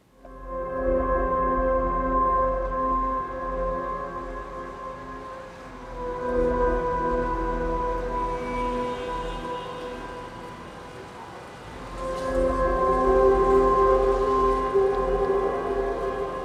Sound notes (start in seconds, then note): 0.3 soft dramatic music; 8.2 traffic moving and horns honking; 13.2 soft dramatic music